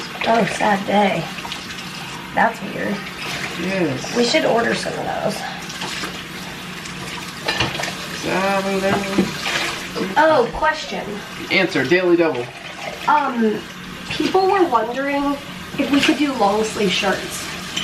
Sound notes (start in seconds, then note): 5.5 water running; 8.0 humming